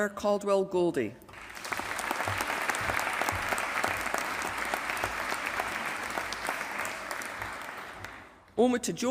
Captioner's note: applause